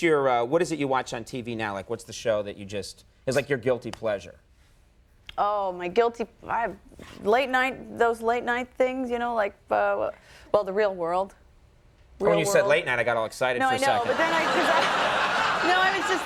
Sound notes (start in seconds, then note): 13.8 public laugh